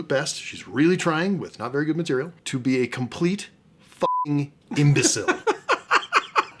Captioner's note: beeping